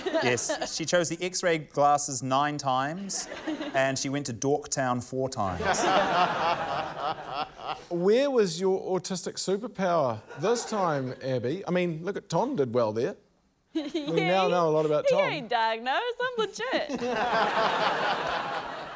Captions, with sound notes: - Yes, she chose the X-ray glasses nine times, and she went to Dork Town four times. (LAUGHTER) - Where was your autistic superpower this time, Abby? I mean, look at― Tom did well there. - (LAUGHS) Yeah. - We now know a lot about Tom. - He ain't diagnosed; I'm legit. (LAUGHTER)